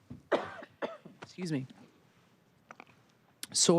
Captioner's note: muted